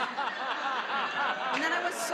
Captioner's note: laughs